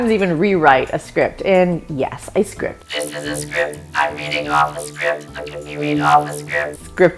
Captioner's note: robot voice